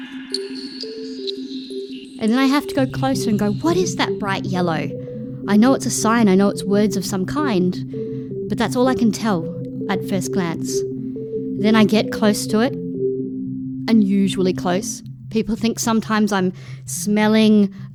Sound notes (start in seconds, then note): none